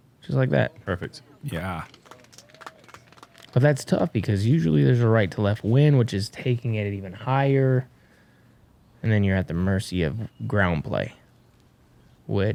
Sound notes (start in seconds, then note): 1.6 cheering